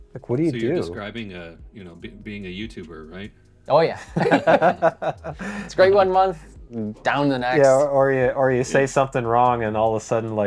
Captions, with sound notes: Like what do you do? - So you're describing being a YouTuber, right? - Oh yeah. (laughing) It's great one month, down the next. - Or you say something wrong and all of a sudden,